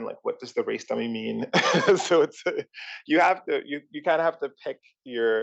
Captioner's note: laugh